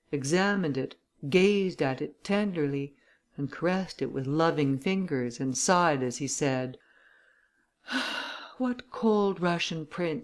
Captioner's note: sighs and gasps